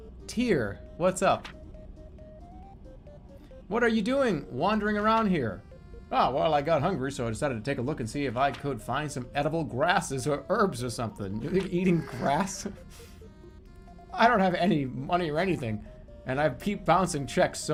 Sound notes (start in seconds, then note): 11.4 chuckles